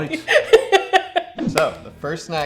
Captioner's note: laughs